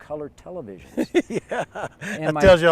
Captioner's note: laughter